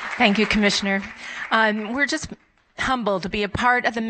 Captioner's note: applause